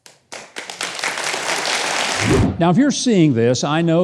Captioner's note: audience applauding